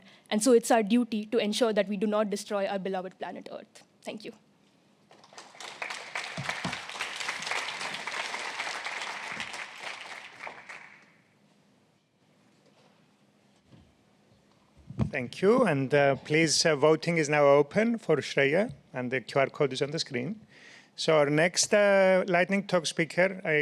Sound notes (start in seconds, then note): 5.1 applause